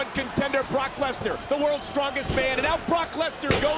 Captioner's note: slamming continues